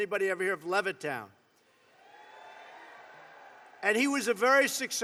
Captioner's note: applause